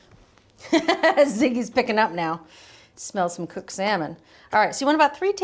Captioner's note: laughs